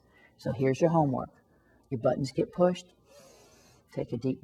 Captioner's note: inhaling sound